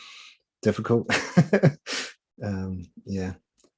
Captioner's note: chuckling